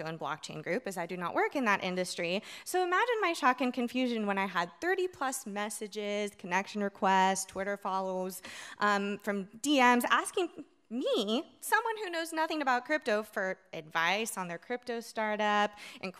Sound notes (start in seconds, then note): none